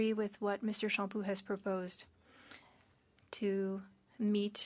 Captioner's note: speaking French